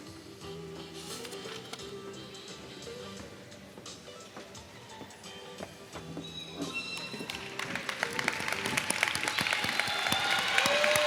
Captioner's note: applause